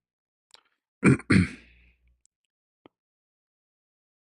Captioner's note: berdehem